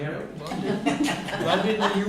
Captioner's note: laughter